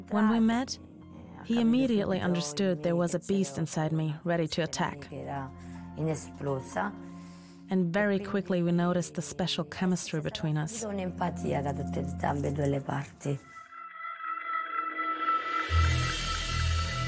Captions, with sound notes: When we met, he immediately understood there was a beast inside me ready to attack. (Speaking in Italian) And very quickly we noticed the special chemistry between us. (brooding music)